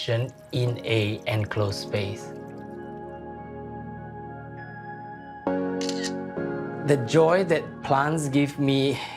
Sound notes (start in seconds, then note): 5.8 phone camera clicks